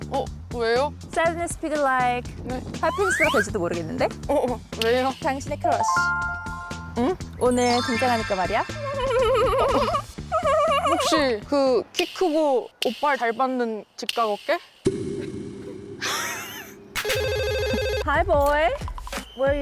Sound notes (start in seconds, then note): 5.6 itching to spill the tea sound effect; 8.5 Queen Gabee laughs; 17.0 phone dialing sound